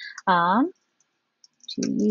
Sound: keyboard clacking

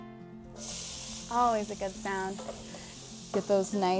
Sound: sizzling

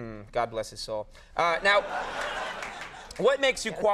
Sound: audience laughing

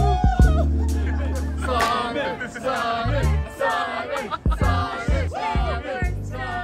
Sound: People collectively chanting Saiman

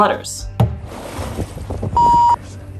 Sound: water splashing noise; beep

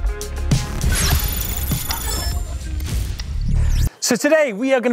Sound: electronic ringing

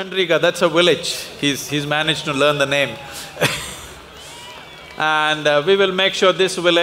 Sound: laughs

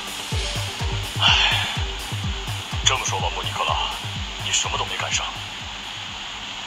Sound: sighs

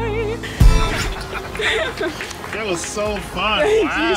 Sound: cheers and applause

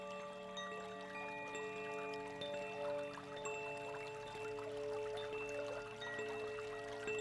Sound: chimes tinkling; water running

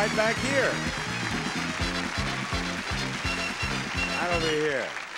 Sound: audience cheers

